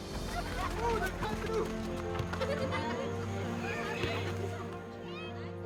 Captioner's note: kids shouting and laughing